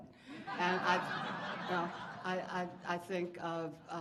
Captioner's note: audience laughing